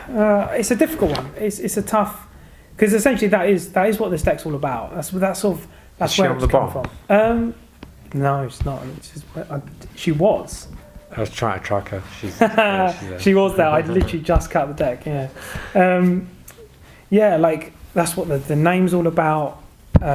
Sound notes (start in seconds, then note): 11.2 laughing